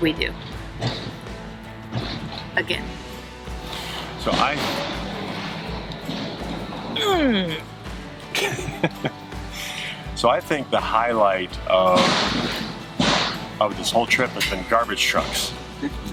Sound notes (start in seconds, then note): 3.7 garbage truck rumbling; 8.3 laughs; 11.8 garbage truck banging